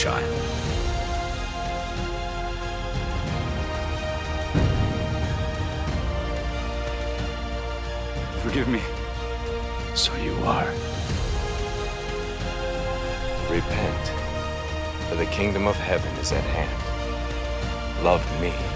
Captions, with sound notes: (orchestral music) (rumbling thunder) - Forgive me. - So you are. (orchestral music) - Repent, for the kingdom of heaven is at hand. Love me.